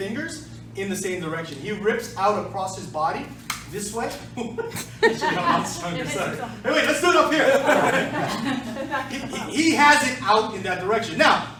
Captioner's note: laughter